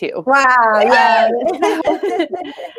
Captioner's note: cheering